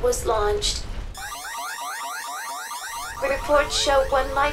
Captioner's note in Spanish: beepbeepbeepbeepbeepbeepbeepbeepbeepbeep